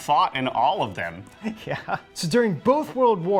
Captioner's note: laughs